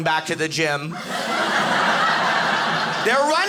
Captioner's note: audience laughing